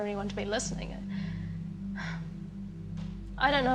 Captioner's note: sighs